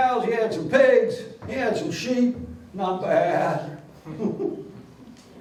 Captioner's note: laughs